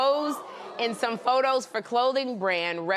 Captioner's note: laughter